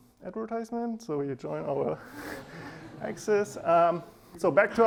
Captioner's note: laughing